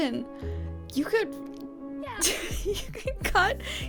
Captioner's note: laughs